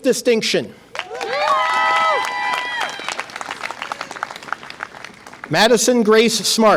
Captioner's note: audience applause and cheer